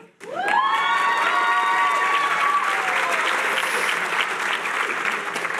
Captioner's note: cheering